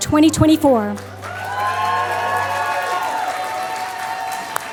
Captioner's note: applause